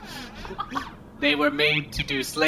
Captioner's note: laughs